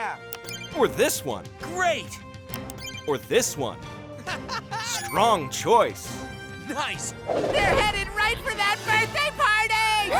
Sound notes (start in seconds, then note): 4.2 laughing